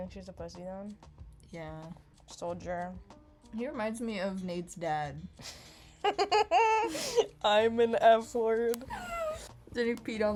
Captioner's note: laughs grossly; whimper